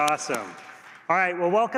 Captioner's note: applause